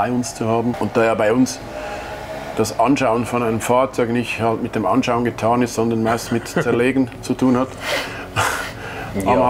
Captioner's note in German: lacht